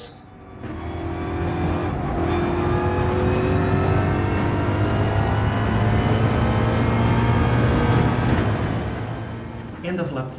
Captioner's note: engines revving, tyres grip, racing sounds